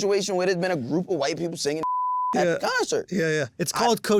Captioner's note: beep